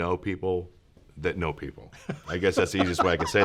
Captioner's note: laughs